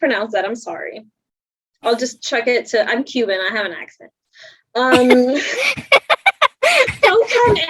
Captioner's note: laughs